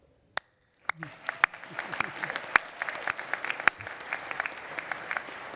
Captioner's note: applause